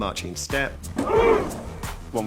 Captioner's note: grunting